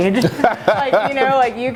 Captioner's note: laughing